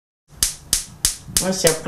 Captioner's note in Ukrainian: тріск п'єзоелементу газової плити